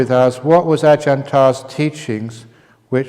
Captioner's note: none